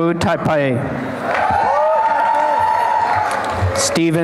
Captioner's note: applause and cheering